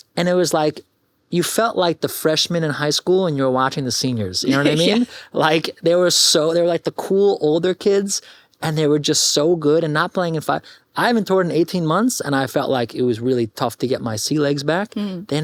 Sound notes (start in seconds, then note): 4.5 chuckles